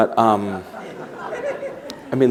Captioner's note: laughter